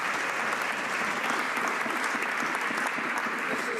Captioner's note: some Applause